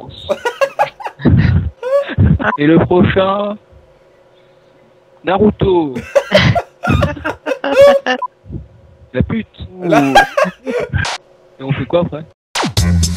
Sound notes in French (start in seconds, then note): 0.1 Rire; 5.9 Rire; 9.7 Rire